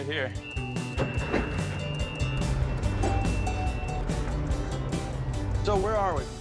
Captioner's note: boat's motor running